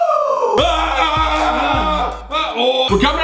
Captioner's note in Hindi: कराहना